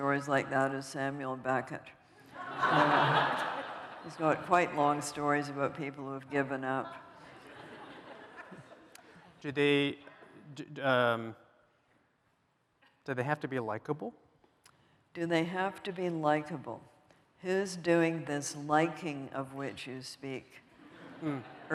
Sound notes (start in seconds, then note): 2.3 laughter